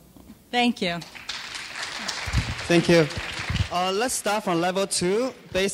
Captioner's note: clapping